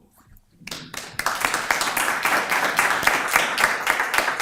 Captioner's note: applause